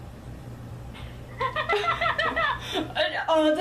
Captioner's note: laughing